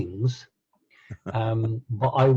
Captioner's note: laughing